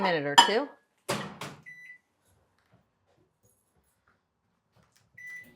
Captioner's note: microwave beeping